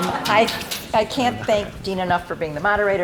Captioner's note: audience laughing